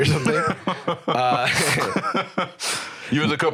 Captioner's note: both laughing